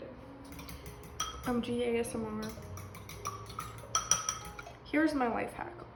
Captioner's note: eggs whisking